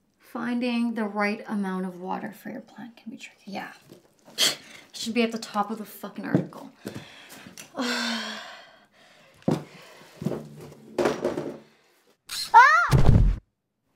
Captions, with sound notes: "Finding the right amount of water for your plant can be tricky." Yeah. [scoff] It should be at the top of the fucking article. Ahh!